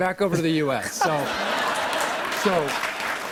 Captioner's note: laughter and applause